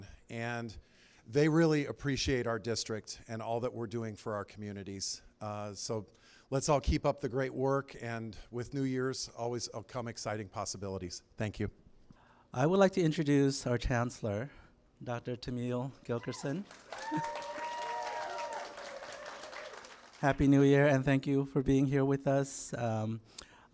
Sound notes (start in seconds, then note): 16.2 applause